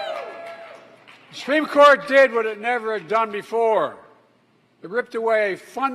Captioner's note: applause